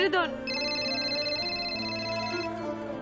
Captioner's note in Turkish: Telefon çalıyor